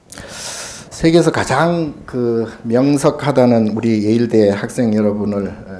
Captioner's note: speaking Korean